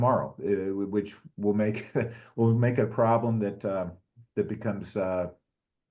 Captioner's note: laugh